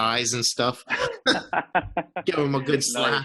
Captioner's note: laughs